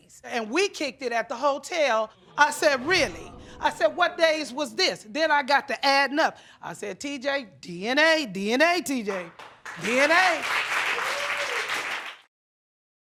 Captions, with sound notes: "And we kicked it at the hotel." I said, "Really?" (AUDIENCE GASPS) I said, "What days was this?" Then I got to adding up. I said, "TJ, DNA. DNA, TJ. (AUDIENCE APPLAUDS) "DNA."